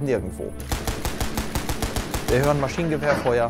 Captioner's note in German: Schüsse